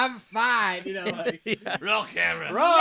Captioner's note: laughing